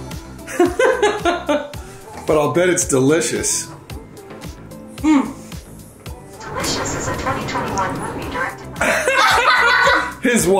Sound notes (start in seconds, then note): 0.4 laughing; 6.7 Electronic voice; 8.8 all laughing